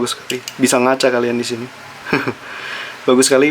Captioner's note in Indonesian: tertawa